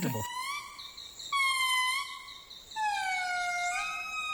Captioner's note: lemur cry